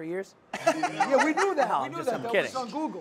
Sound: laughs

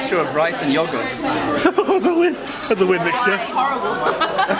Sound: laughs

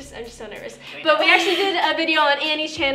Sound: laughs

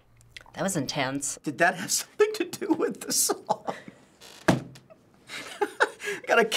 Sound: laughs

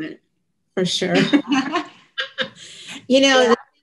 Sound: both laughing

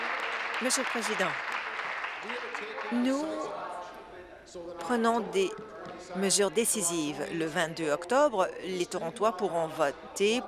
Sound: applause

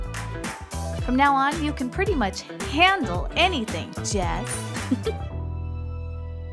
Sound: chuckle

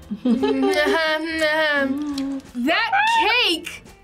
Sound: both laugh

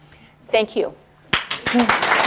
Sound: applause

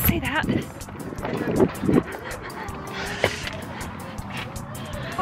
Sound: wind blowing

